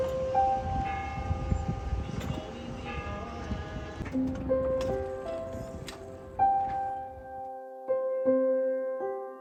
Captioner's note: church bell, Music, boats squeak